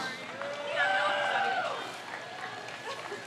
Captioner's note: crowd cheers